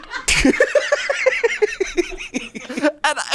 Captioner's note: laughs